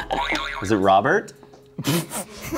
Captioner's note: springing sound